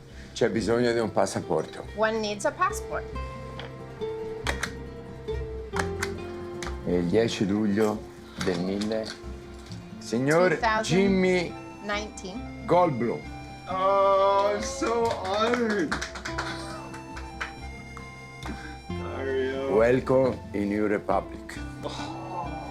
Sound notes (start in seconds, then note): 0.1 Dario speaking Italian; 4.6 passport stamp clicking; 15.9 patrons applauds